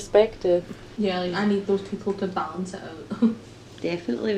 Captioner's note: laughs